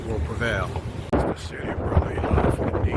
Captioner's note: wind blowing